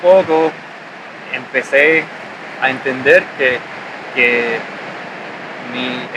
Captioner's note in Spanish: Sonido Olas